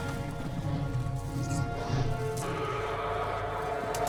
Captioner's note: dragon growling and roaring